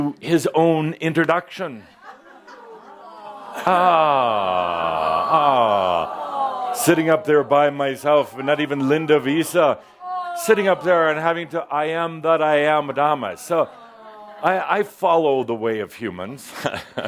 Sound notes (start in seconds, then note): 2.9 audience responds “Awwww”